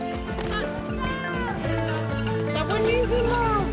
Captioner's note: child shouts